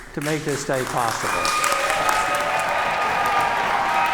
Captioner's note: cheers and applause